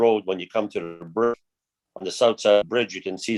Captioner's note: mutters